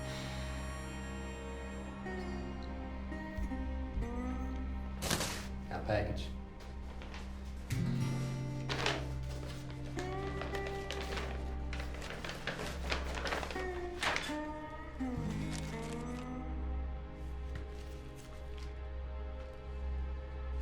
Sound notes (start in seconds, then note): 0.1 sighs, train horn sounds outside; 3.2 tapping head; 4.9 clatters; 8.5 envelope rustling